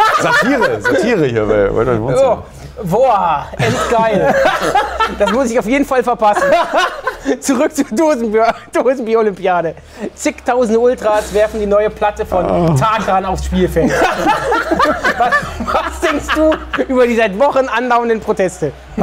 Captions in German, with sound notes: Satire hier bei "World Wide Wohnzimmer". Woah, endgeil. Das muss ich auf jeden Fall verpassen. Zurück zur Dosenbier-Olympiade. Zigtausende Ultras werfen die neue Platte von Tarkan aufs Spielfeld. (Schallendes Lachen) Was denkst du über die seit Wochen andauernden Proteste?